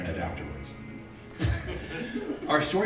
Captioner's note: audience laughs